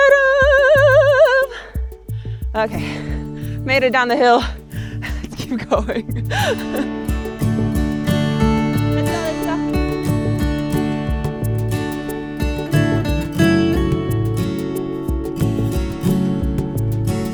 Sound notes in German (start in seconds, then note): 5.0 lacht; 7.5 helle Musik